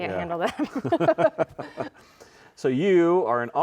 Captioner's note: both laughing